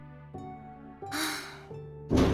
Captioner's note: sigh